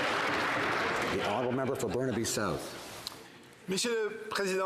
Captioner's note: some Applause